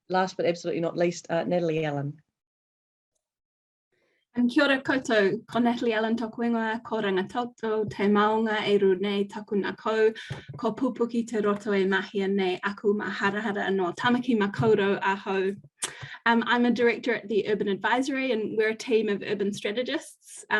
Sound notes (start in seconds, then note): 6.5 speaking foreign language